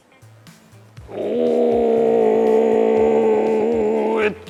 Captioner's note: grunting